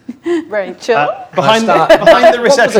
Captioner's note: overlapping chattering